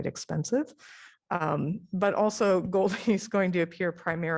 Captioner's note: laughter